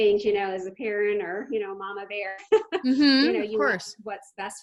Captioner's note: laughs